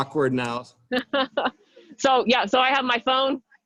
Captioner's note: chuckles